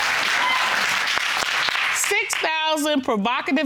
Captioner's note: audience applauds